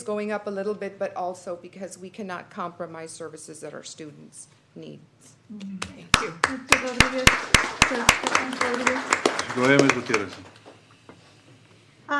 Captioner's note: applause